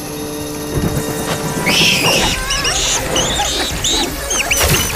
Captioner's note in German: Bedrohliche Musik; Fledermauskreischen, Schreckenslaute